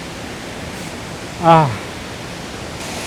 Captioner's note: joyful sigh